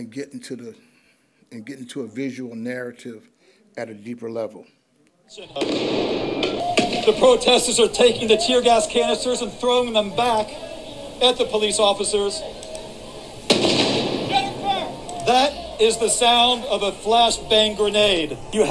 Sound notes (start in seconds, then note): 5.5 grenades exploding; 13.4 grenade explodes